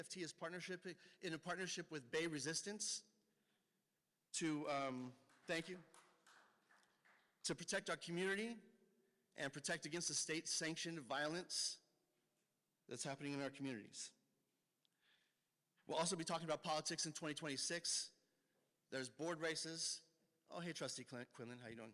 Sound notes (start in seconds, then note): 4.8 clapping